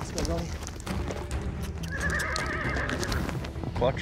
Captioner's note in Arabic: صهيل الحصان